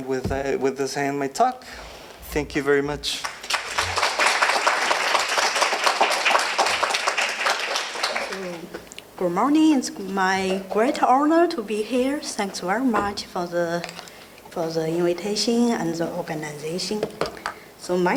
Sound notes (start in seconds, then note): 3.2 audience applauding